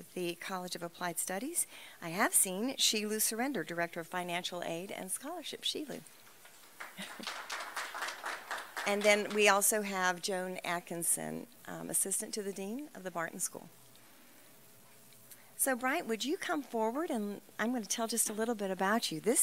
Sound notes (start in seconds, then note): 8.0 applause